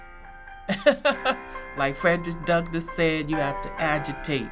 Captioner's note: laughs